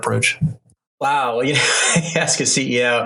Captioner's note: laughs